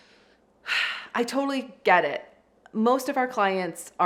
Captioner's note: sighs deeply